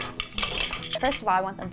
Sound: machine scrapes; shuttle rattles

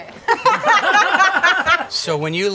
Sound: all laughing

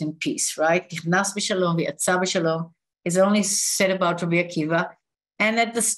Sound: non-english speech

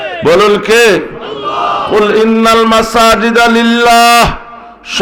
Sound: Arabic

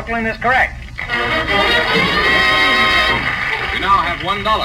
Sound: audience applauds

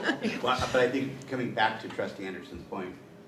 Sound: people chuckling

